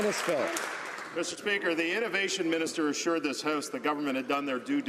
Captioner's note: applause